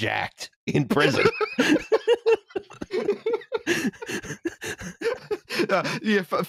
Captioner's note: laughter